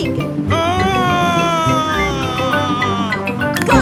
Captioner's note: screaming